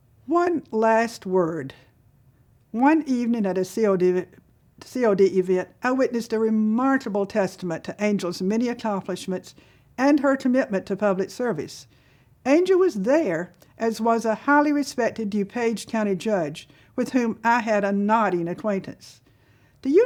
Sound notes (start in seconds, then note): none